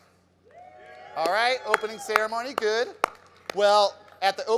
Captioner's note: crowd cheers